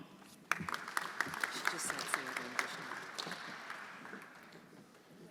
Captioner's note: everyone applauding